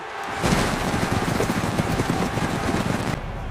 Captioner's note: crowd cheering